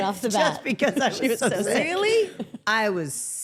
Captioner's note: laughs